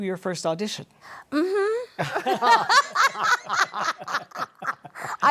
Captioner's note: laughter